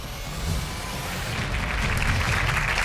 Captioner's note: crowd clapping